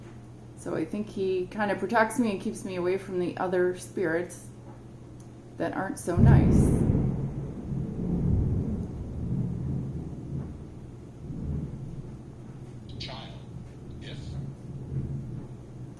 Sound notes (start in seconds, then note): 6.1 thunder